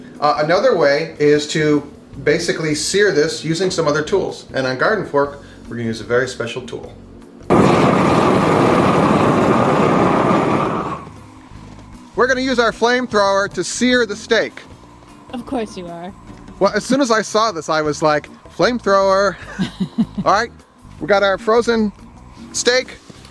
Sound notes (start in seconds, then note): 7.4 fire blazes; 19.4 woman laughs